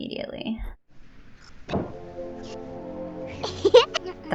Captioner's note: crash sound and music sting